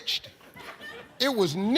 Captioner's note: audience chuckles